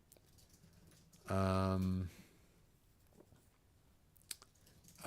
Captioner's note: silence